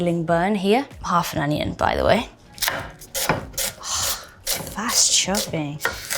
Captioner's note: knife thumping